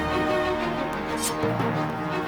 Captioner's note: sword unsheathed